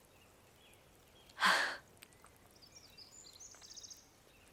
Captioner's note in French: Becca soupire